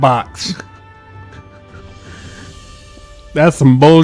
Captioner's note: laughs